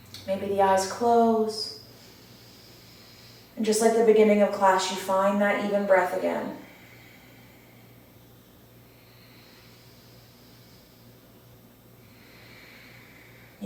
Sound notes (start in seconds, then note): 8.9 audible breath